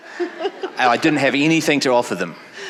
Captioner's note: audience laughing